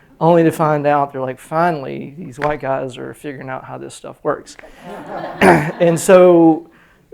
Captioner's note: laughter